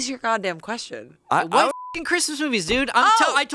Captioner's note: beep